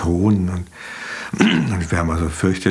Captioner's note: he clears his throat